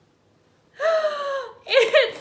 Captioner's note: gasps